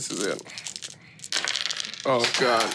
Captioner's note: dice clinking; dice rolling